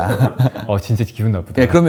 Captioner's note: laughter